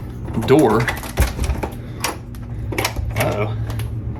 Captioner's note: door clicking